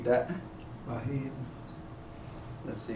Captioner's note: non-english speech